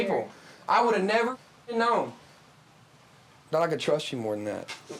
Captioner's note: muted